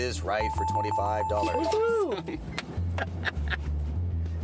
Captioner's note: bells